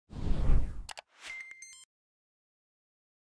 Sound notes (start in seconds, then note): 0.1 swoosh